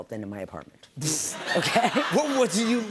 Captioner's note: laughter